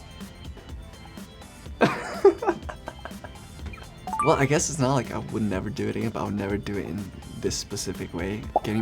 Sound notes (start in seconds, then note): 1.8 laughs; 3.7 beeps